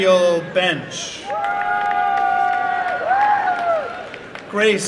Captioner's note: applause and cheering